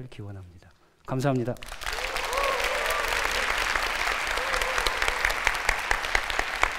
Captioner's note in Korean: 환호와 박수